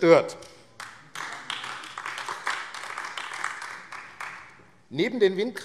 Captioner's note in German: Beifall AfD